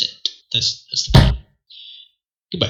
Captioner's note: thwack